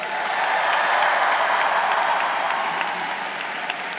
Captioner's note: crowd cheering